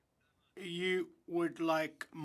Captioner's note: speaking French